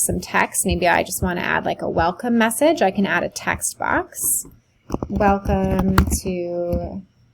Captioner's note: keyboard typing